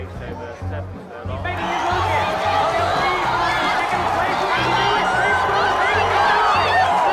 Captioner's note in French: applaudissement